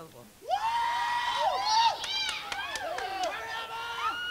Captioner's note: crowd cheering